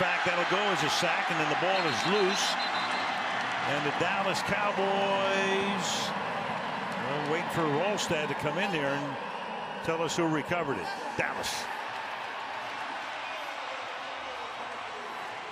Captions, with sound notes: And, in fact, that will go as a sack. And then the ball is loose. And the Dallas Cowboys, well, waiting for Wrolstad to come in there and tell us who recovered it-- Dallas. [cheering]